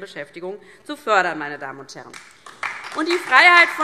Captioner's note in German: Beifall DIE LINKE und vereinzelt SPD